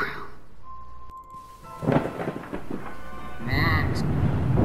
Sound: thunder Cracking Sounds

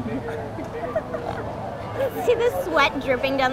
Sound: both laughing

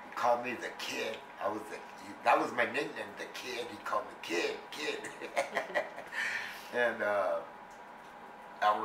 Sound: laughs

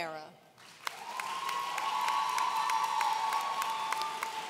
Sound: audience cheering

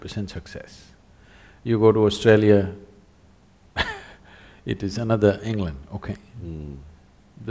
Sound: laughs

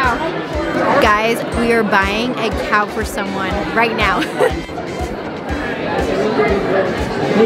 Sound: laughs

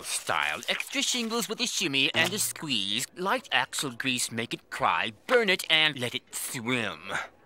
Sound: none

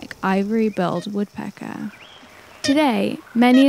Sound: Sounds of Ivory-billed Woodpecker play: Macaulay Library catalog number 6784

